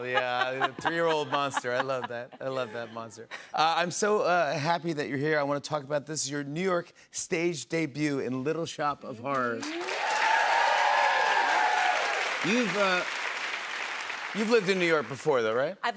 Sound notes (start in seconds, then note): 9.6 cheers and applause